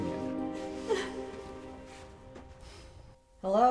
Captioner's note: Anne crying